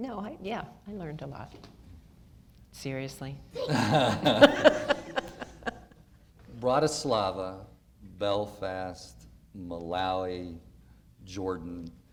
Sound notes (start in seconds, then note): 3.7 audience laughter